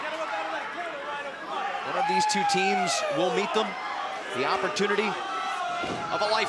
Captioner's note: crowd chatter